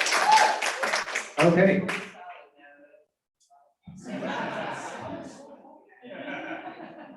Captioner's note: cheering and Applause